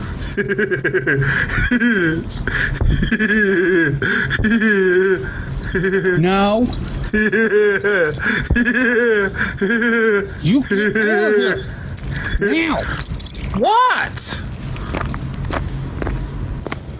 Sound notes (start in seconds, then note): 0.2 laughing; 7.4 laughs